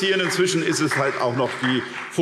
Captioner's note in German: Beifall SPD